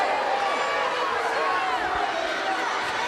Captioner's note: crowd chatter; crowd cheering